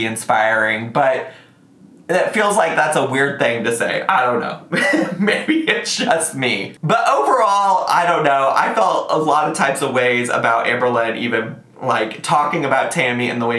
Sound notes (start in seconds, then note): 4.6 chuckling